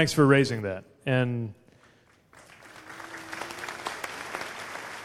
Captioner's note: applause